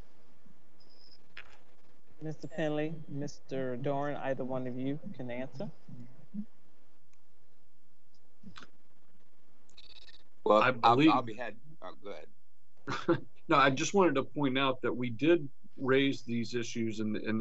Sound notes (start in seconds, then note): 12.9 laughs